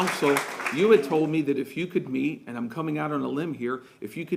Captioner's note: applause